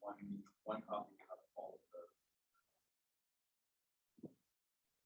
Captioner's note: participant faintly speaking